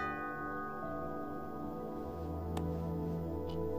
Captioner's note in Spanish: Timbre de la puerta